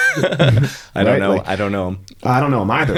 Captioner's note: laughing